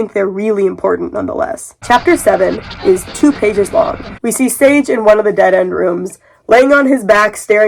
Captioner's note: sounds of radio tuning